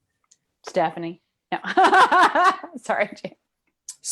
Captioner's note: laughs